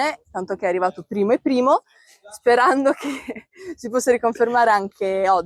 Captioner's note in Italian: risate